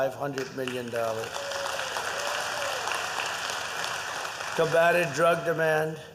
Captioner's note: applause